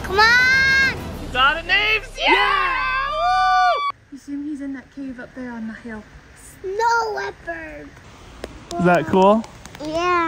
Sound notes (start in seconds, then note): 2.1 family cheering